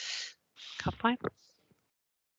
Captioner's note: non-english